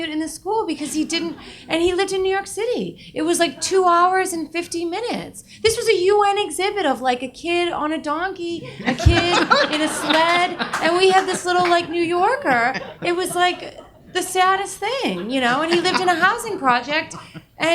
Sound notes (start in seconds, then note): 9.7 audience laughing